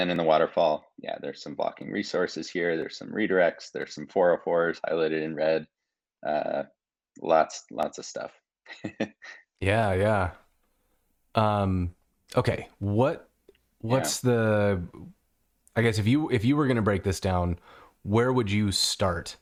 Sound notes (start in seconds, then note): 8.7 chuckling